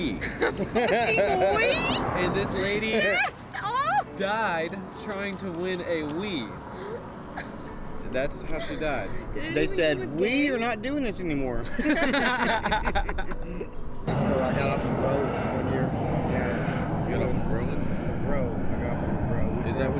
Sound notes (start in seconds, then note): 11.6 laughing